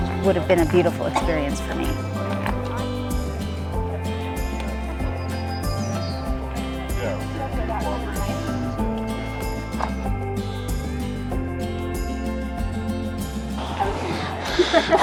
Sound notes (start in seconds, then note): 2.6 group chattering; 2.6 inspirational music